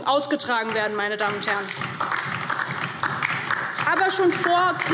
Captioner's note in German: Beifall DIE LINKE